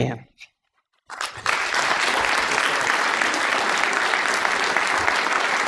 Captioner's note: applause